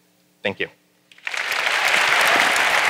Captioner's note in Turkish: Alkış